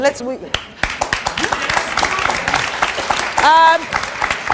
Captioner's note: audience applauds